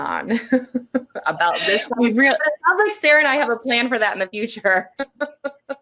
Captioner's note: laughing